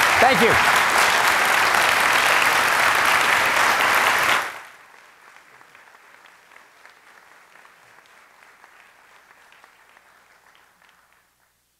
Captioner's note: applause